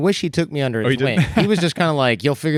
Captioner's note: chuckles